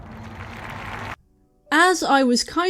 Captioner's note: applause